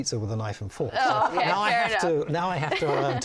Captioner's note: laughing